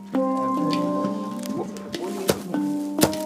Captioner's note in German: Leises Stimmengewirr